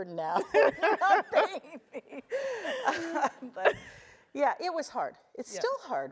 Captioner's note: laugh